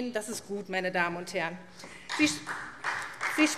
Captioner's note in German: Beifall SPD